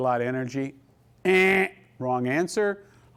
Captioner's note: imitating buzzer sound " ENNN "